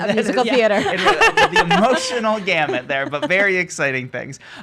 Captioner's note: laughing